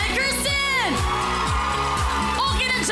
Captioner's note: applause, cheering